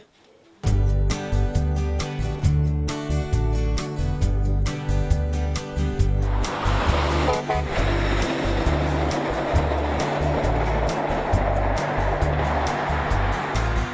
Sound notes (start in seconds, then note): 5.6 passing truck